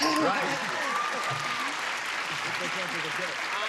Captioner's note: cheering and clapping